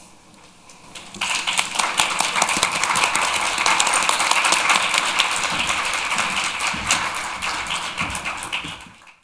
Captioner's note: applause